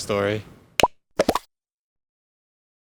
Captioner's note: four bubble popping noises